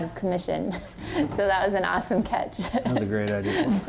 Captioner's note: laughs